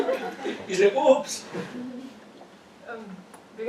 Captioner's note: laugh